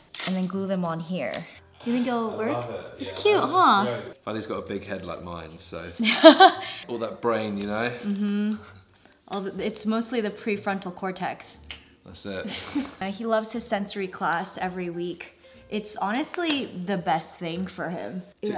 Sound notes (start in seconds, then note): 6.0 laughing; 11.7 clicks tongue